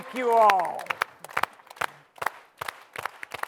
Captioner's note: slow to fast clapping